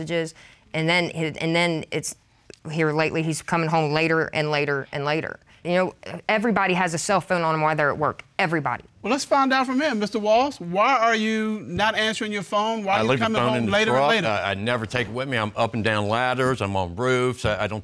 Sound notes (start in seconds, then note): none